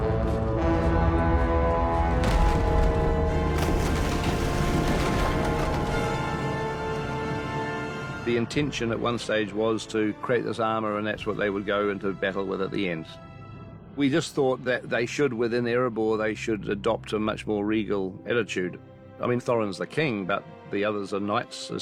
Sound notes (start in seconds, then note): 0.8 horn blowing; 2.9 bell tolling